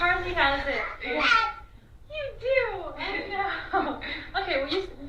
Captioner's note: babbles